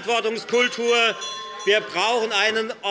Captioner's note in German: Unruhe - Glockenzeichen des Präsidenten